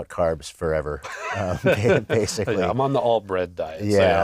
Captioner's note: laugh